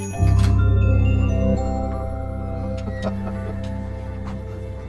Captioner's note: bells jingling